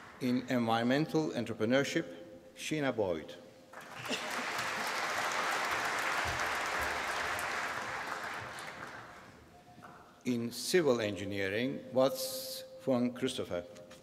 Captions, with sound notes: In environmental entrepreneurship Sheena Boyd. (APPLAUSE) In civil engineering Wat Tsz Fung Christopher.